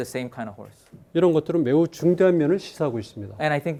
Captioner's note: speaking in Korean